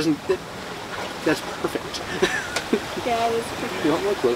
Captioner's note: laughs